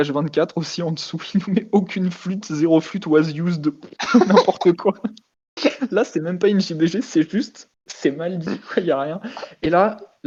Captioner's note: laugh